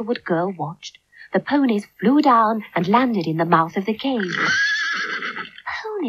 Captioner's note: sound Of Horses Whinnying